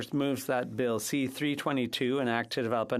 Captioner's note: speaking French